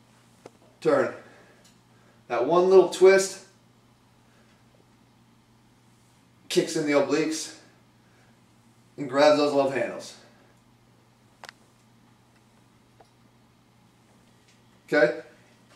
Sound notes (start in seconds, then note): 12.1 pause